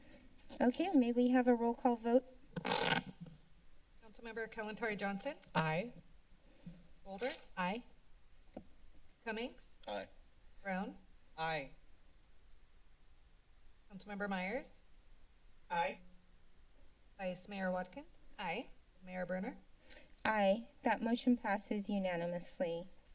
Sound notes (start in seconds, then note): 2.6 scratching noise; 11.7 silence